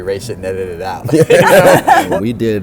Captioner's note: laughter